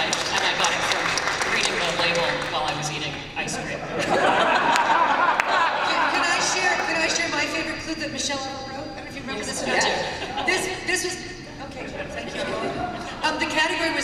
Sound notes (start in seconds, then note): 3.8 laughter